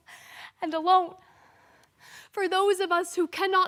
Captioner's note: soft breathing